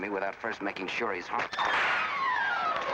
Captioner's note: suspenseful music; whip snaps